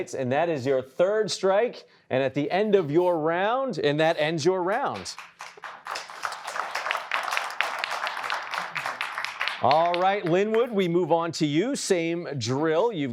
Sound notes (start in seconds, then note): 4.7 applause